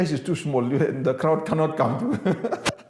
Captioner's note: laughs